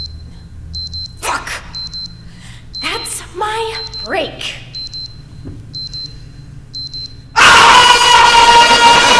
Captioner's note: beeping